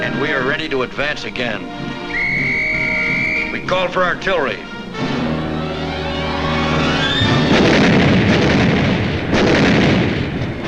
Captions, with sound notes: And we are ready to advance again. (whistle tooting) We call for artillery. (guns blasting)